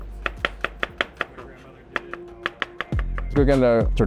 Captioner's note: knife clatters